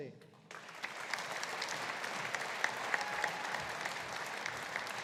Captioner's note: audience applauding